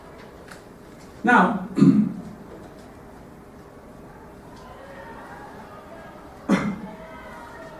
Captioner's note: cough